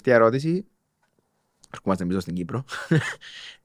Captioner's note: he laughs